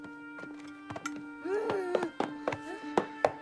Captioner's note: Helen Tapping Floor